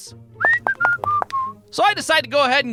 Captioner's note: whistling